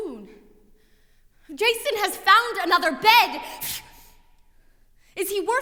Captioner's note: scoffs